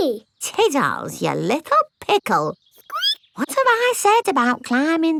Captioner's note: squeaks